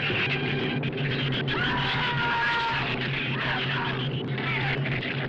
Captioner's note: screaming